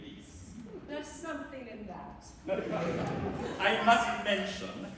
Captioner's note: laughter